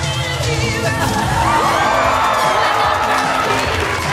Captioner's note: audience gasps